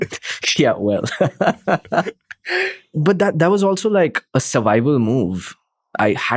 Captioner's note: laughs